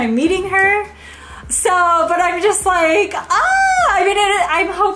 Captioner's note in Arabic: الصراخ